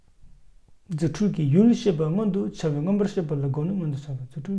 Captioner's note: speaks in Tibetan